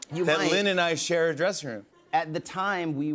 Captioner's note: none